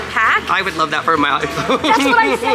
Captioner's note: laughs